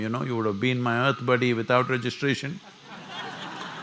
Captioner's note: laughter